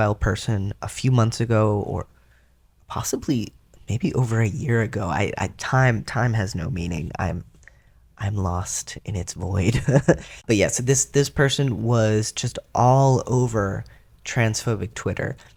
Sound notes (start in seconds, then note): 9.7 laugh